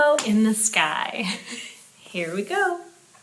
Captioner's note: chuckles